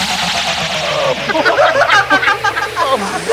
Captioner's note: All laughing